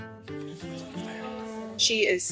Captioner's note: people chattering